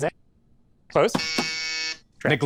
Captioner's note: reversed; buzzer